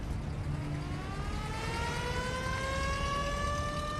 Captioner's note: ambulance siren wailing